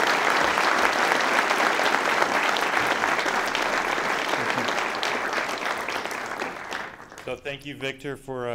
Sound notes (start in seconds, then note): 0.0 applause